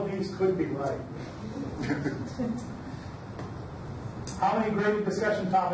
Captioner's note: audience laughs